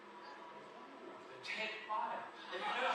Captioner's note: audience in video laugh